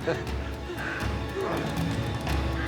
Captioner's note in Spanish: Risas